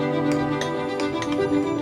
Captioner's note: stone chiseling